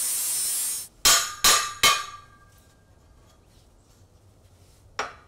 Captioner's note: metal banging